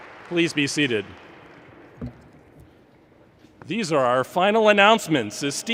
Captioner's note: applause